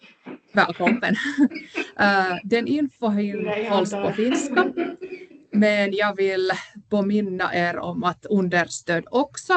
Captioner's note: puhuu ruotsia; puhuu ruotsia